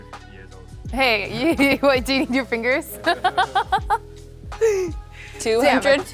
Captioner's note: laughs